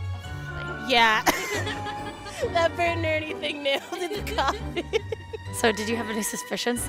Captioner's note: laughs